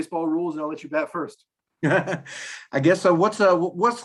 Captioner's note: laugh